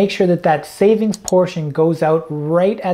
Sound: mouse clicking

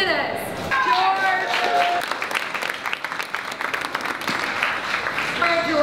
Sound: applause

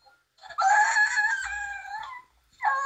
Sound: screams

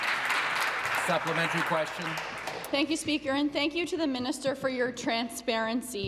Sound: applause

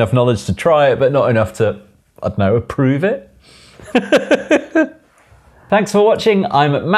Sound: laughs

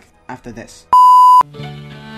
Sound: beep

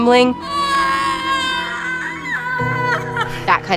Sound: screams

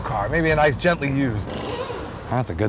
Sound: air wrench

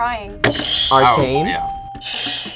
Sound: bell rings

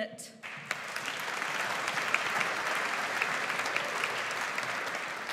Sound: audience applauds

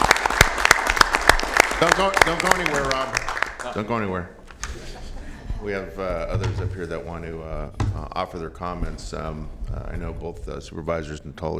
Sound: applause

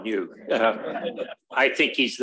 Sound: chuckles

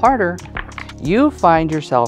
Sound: dice clattering

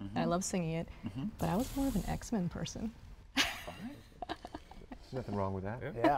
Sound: laughing

